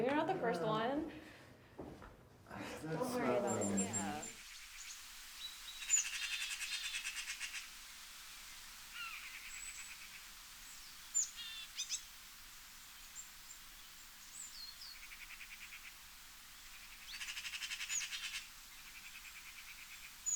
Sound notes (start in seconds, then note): 5.2 birds chirp; 5.2 water flows